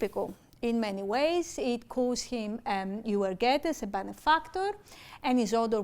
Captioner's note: speaking greek